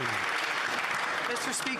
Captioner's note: some Applause